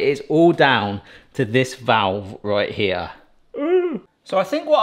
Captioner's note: groans